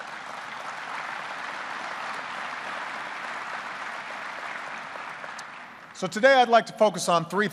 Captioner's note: applause